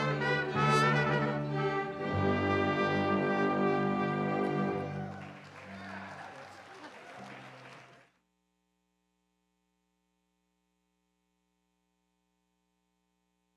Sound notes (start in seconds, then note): 4.0 audience applauds and cheers